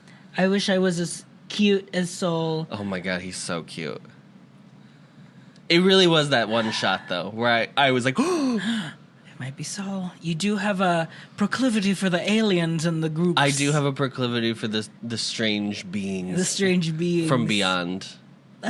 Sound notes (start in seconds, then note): 8.2 gasp